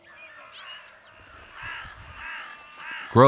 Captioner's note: crow cawing